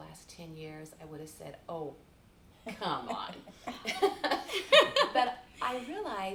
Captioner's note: chuckles